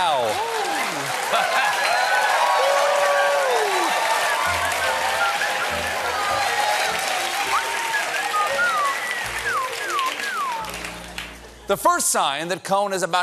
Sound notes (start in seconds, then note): 0.4 cheers and applause; 1.7 whistling